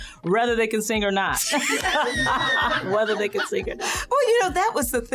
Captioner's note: laughter